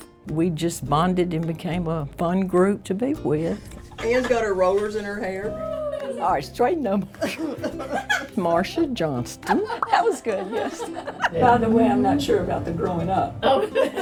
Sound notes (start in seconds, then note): 7.2 everyone laughing; 11.3 laughing; 13.5 everyone laughing